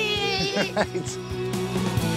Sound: laughs

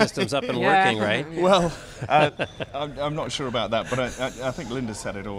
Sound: laughs

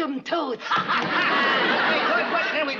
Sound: laughter

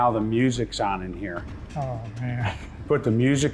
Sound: laughs

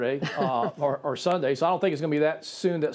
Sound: laughter

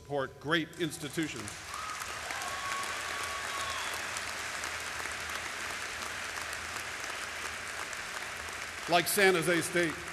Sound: applause

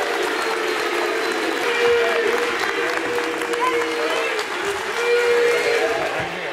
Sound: audience applauding and cheering

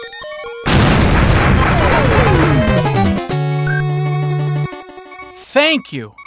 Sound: loud beepings continue; multiple explosions; game over noises

